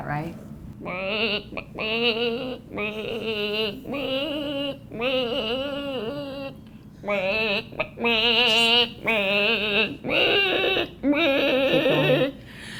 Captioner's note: clucks like a chicken